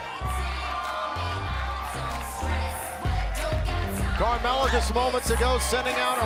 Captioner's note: crowd cheering